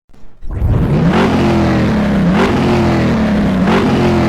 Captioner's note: engine revving